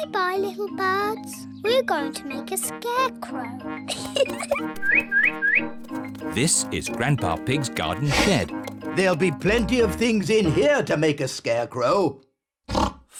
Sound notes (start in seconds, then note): 3.8 giggles; 4.8 bird tweets